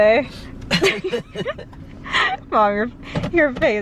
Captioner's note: laughing